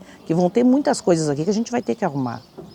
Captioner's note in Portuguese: marteladas ao fundo